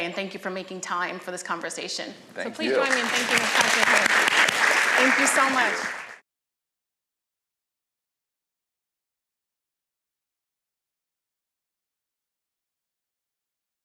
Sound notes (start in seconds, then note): 4.4 applause